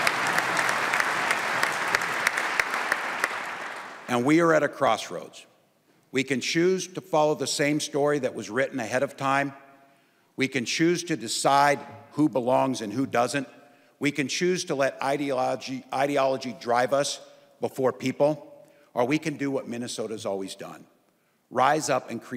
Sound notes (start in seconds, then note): 3.1 applause